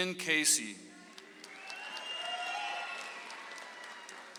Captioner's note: audience applauds